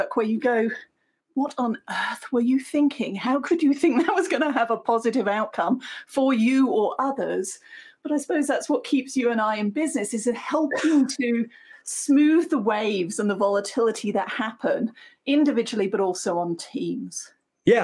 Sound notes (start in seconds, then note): 3.8 chuckles